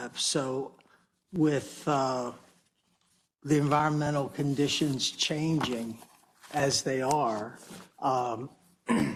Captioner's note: cough